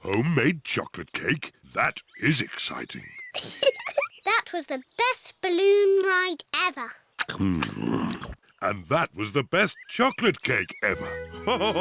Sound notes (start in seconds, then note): 3.2 giggles